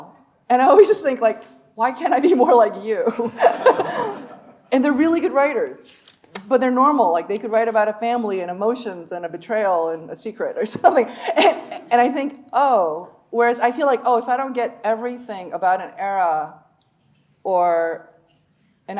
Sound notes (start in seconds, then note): 3.2 laughing; 3.3 audience laughing